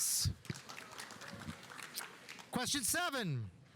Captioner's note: audience applauding